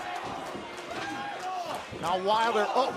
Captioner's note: crowd chatter